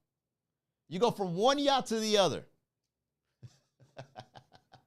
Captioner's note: laugh